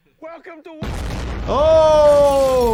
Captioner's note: explosion blares